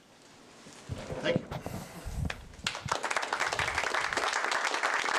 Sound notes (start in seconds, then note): 2.6 applause